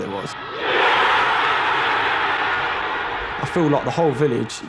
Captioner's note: crowd roars